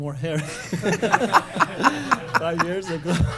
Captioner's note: laughter